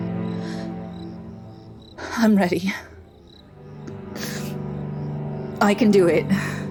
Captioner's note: sniff